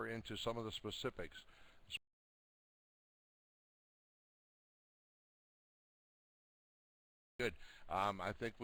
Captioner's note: audio drops